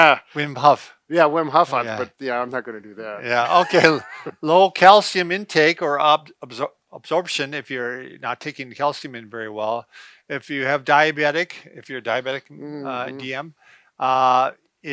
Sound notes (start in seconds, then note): 3.2 laughs